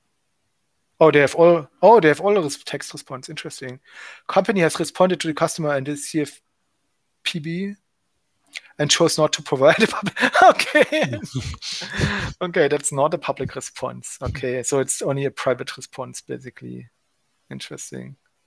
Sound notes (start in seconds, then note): 9.8 laughing hysterically